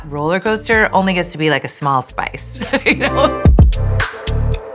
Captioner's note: laughs; chill music